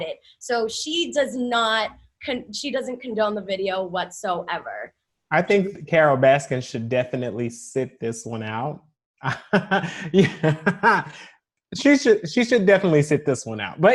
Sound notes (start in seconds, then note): 9.2 laughs